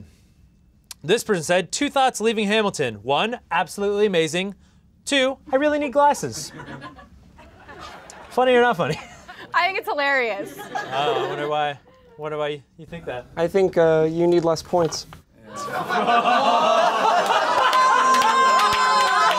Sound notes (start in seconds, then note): 10.4 laughing; 15.5 'roasted!' laughing